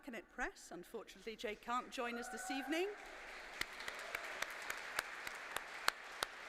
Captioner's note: applause